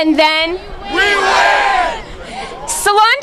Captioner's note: crowd yells